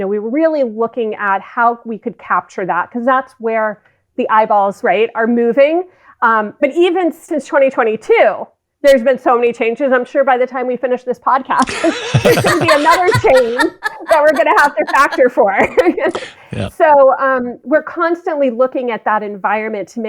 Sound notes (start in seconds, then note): 11.6 both laughing; 15.2 laughs